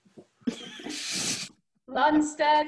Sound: laughs

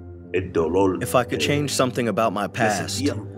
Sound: through translator

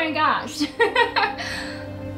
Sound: emma joyfully laughs

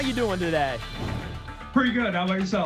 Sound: whoosh

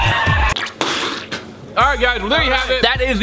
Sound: spit

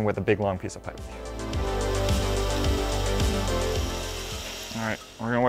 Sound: upbeat instrumental music; saw buzzing

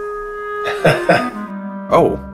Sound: Judge Kelly laughs

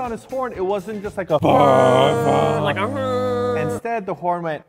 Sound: huuuurrrh

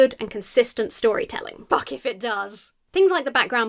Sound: none

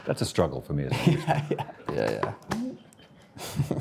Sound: laughs

